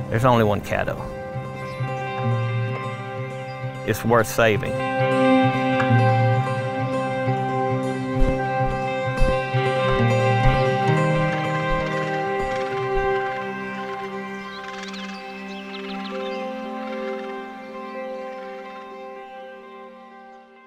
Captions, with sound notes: there's only one Caddo. (gentle instrumental music) It's worth saving. (upbeat instrumental music) (egret calling)